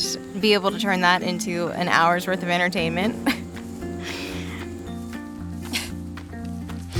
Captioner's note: laughs